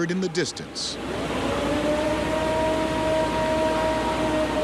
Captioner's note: recording howling